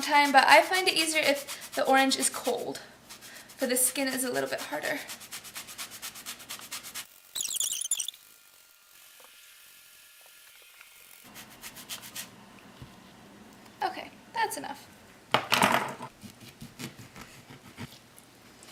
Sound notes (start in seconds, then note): 7.3 fast forward sounds